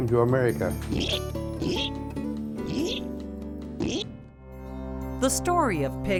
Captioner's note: pig snorting